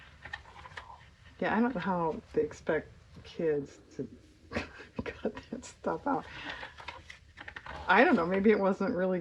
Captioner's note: laughs